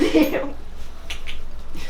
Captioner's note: laugh